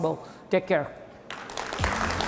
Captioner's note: applause